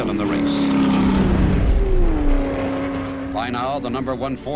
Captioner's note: engines roaring